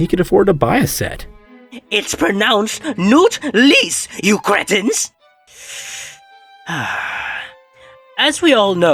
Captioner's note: slow, calming breath